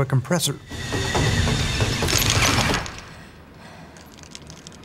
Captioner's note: drill whirring